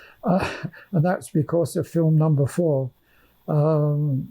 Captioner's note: laughing